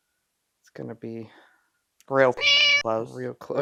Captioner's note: meow